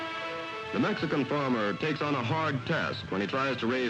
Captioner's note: TV announcer in English